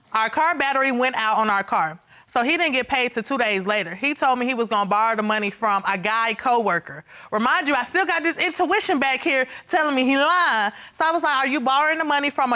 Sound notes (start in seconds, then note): none